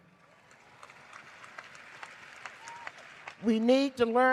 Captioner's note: cheers and applause